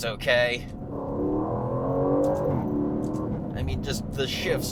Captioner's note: engine racing